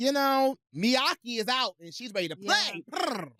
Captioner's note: purrs